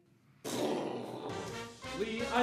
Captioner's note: exploding noises